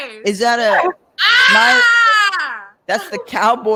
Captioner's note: exclaims